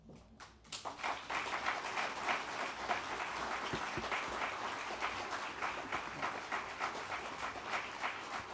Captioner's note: applause